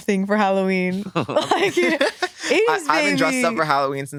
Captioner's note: all laughing